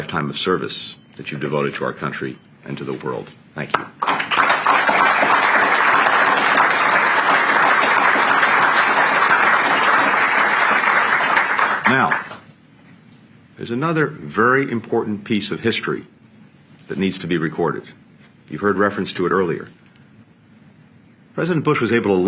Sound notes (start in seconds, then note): 8.5 applause